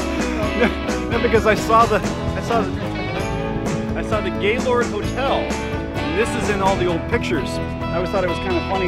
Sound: laugh

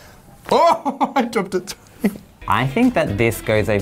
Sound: laughs

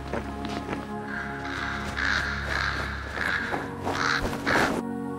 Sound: crow cawing

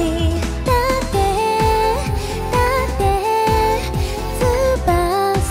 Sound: echo

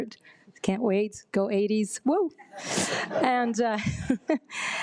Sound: attendees chuckle

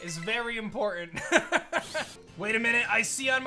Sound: laughs

